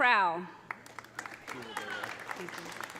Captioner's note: audience applauding; audience cheering